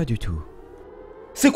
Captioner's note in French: Alarme